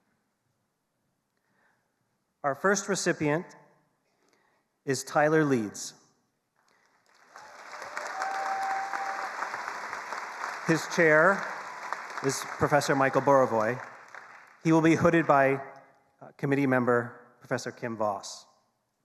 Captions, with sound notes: Our first recipient is Tyler Leeds. (attendees applauding) His chair is Professor Michael Burawoy. He'll be hooded by committee member Professor Kim Voss.